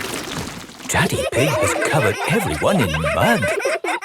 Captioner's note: all laughing